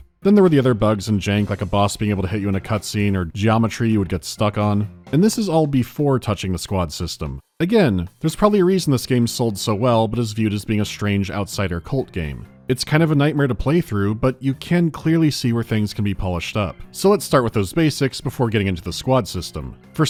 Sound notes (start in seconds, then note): none